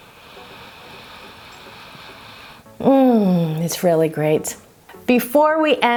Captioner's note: inhale